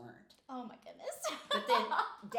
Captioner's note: laughing